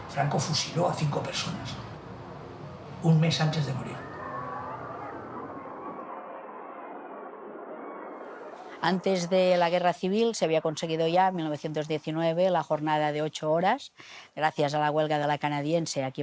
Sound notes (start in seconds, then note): 3.7 screams